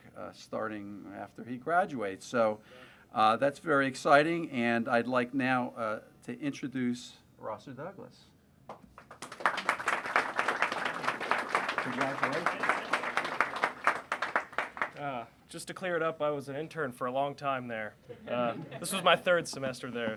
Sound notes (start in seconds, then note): 8.8 applause; 18.0 laughter